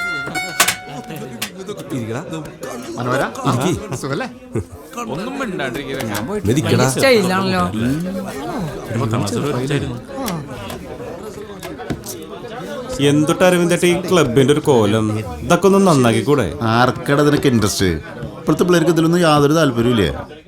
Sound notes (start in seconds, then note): 6.4 indistinct chatters